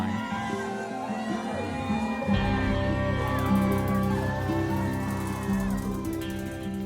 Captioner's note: crowd cheering; dramatic music